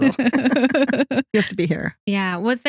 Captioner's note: both Laughing